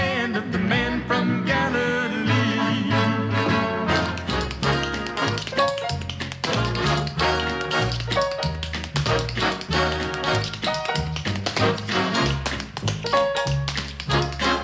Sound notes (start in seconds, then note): 8.0 tap dancing